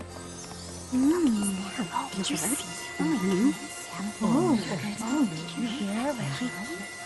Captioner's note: soft murmurs